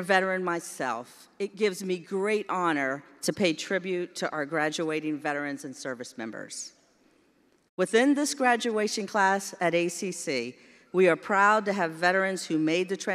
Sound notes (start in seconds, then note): none